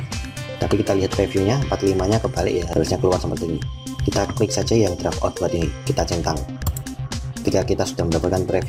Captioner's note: click